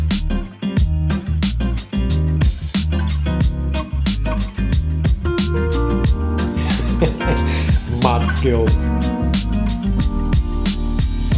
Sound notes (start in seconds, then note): 0.7 upbeat music; 6.5 laughs